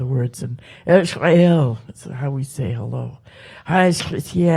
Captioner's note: speaks Halkomelem